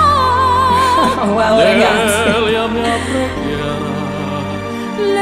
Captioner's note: laughing